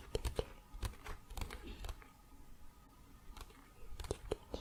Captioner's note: tapping on pages